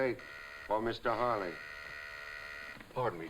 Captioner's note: buzzer buzzing